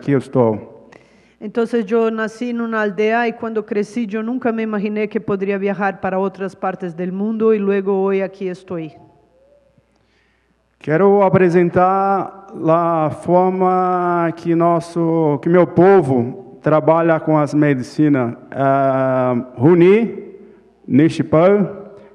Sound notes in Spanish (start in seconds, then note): 10.3 Ponente habla en portugués